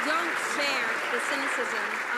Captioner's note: some Applause